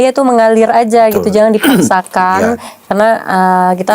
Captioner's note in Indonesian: berdehem